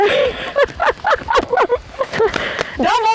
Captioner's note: laugh